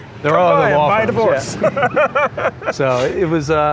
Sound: laughs

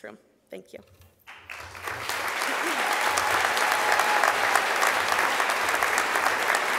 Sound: crowd applause

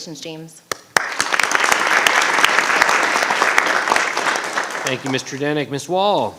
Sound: audience applauding

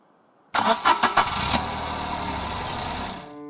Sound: car starts up and drives away

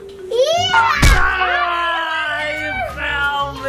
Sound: dad groans

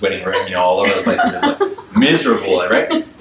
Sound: audience laughs

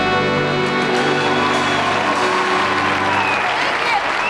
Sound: audience applauds and cheers

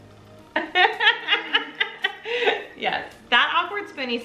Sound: laughs

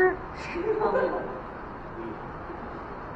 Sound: laughter

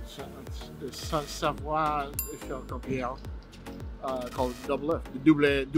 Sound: speaking foreign language; speaking foreign language

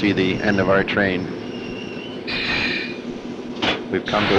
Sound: sound of the train moving

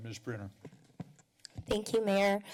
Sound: mic sounds

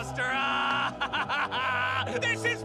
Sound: laughing

